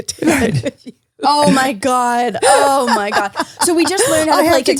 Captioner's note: laughs